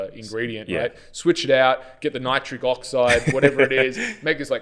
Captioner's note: laughs